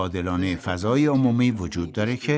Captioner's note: speaking in foreign language